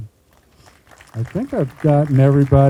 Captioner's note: group applauding